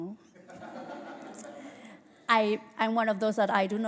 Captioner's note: laughter